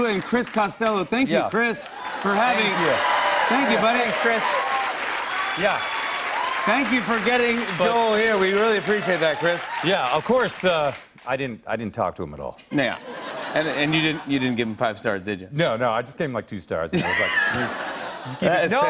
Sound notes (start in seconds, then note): 4.0 cheers and applause; 16.7 audience groans